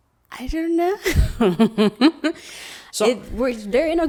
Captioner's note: laughs